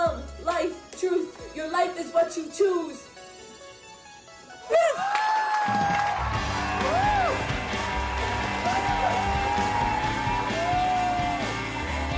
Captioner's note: applause and cheers